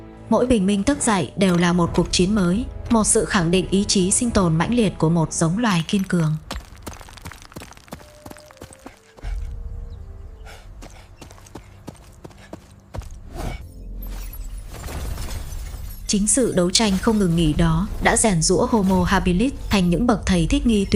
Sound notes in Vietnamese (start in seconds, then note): 10.3 thở hổn hển; 13.9 khịt mũi